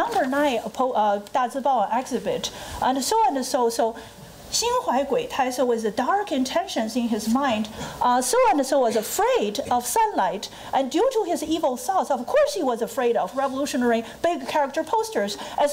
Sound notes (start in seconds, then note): 4.1 foreign language